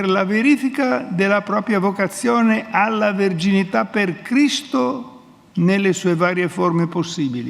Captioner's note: speaks in Italian